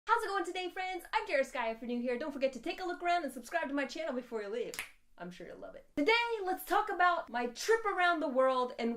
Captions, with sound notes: - How's it goin' today, friends? I'm Jera Sky. If you're new here don't forget to take a look around and subscribe to my channel before you leave. (finger snaps) I'm sure you'll love it. Today let's talk about my trip around the world